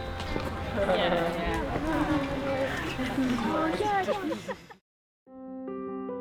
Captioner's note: background chatter